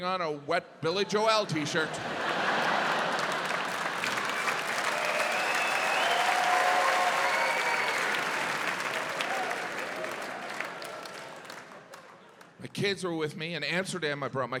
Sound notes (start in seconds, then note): 1.4 audience laughs; 4.8 audience cheering, applauding